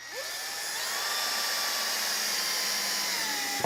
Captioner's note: drill whirring